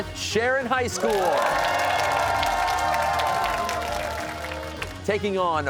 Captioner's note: cheers and applause